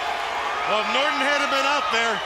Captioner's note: crowd cheering